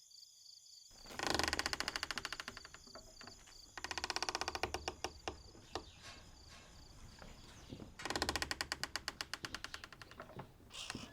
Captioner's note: creaky door opening; barn ambience: small clanging and animal squeaks